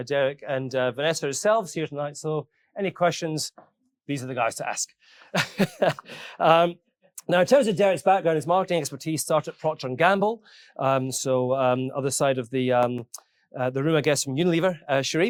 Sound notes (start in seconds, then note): 5.3 chuckles